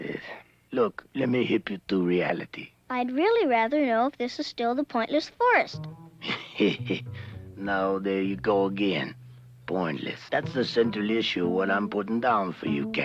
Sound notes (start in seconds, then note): 6.2 laughs